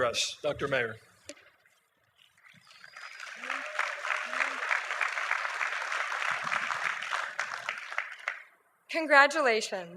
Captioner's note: applause